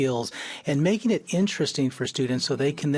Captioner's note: none